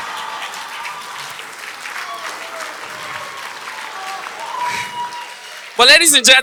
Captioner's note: audience applause